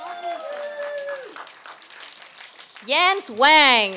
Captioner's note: applause